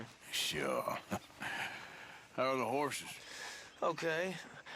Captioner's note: laughs